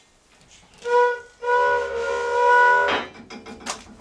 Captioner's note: loud squeaking